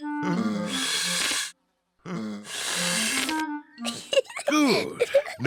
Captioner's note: blowing deeply; giggles